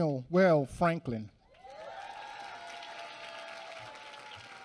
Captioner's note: applause